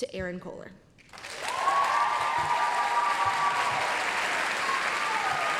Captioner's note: applause, cheering